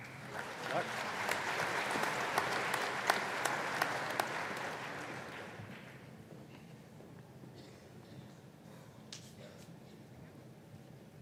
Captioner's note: applause